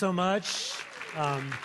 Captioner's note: applause